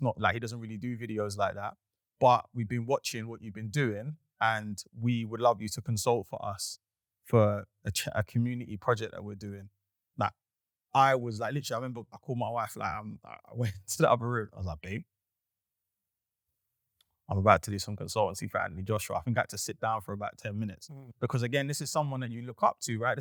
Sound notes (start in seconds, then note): 13.6 chuckles